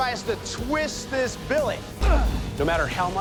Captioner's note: grunting